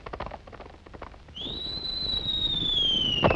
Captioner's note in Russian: всадник свистит